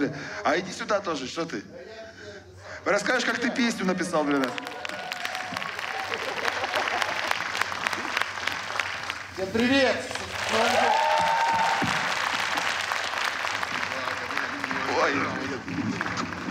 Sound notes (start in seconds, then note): 4.9 applause; 11.4 cheering, applause